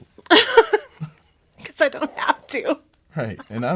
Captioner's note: laughs